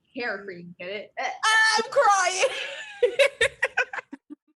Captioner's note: laughter